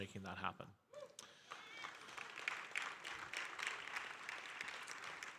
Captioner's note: audience applauding